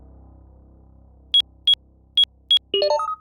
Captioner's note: beeps